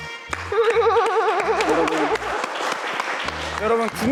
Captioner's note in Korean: 헤헿